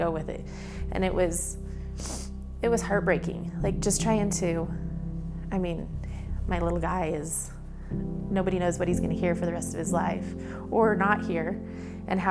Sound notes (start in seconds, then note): 1.8 sniff